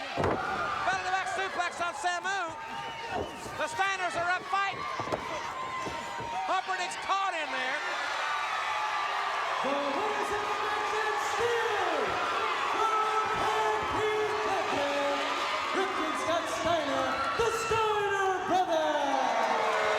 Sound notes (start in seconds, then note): 8.3 audience cheers; 19.7 audience cheers